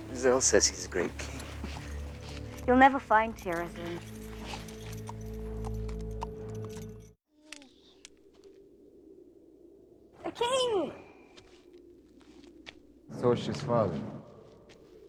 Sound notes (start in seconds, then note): 7.8 wind Whistling; 10.1 high-pitched Voice